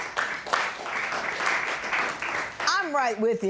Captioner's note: applause